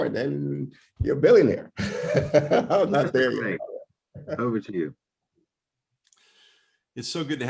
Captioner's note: laughter